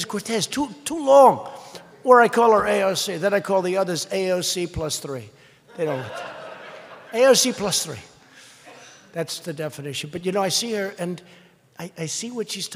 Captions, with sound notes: is Cortez. Too -- too long. Or I call her "AOC." Then I call the others "AOC plus 3." (laughter) They don't like that. AOC plus 3. That's the definition. But you know, I see her, and I see what's she's